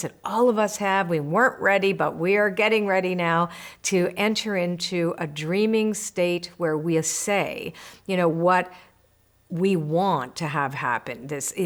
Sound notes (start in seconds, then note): none